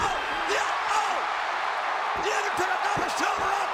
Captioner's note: crowd cheers